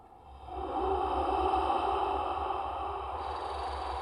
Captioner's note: echoing ominous breathing